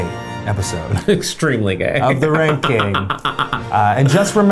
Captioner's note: laughs